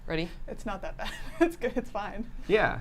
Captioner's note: laughs